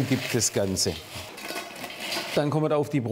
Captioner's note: rustling